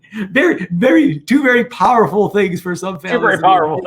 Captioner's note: murmurs